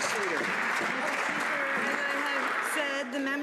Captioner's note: some Applause